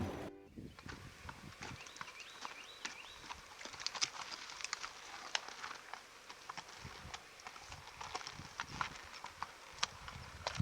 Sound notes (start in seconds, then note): 0.0 birds chirping; 0.7 horse's hooves clopping